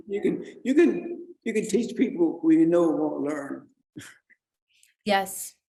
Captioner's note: chuckles